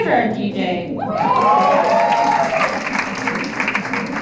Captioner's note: applause, cheering